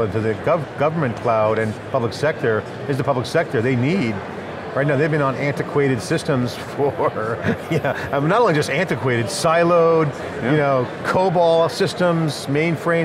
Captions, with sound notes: into the government cloud and public sector is the public sector. They need. Right, now, they've been on antiquated systems for (laughs) I mean, not only just antiquated. Siloed, COBOL systems, mainframe.